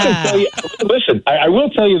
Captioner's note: laughing